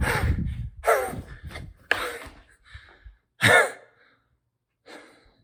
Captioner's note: panting heavily